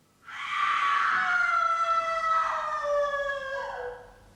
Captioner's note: agonised scream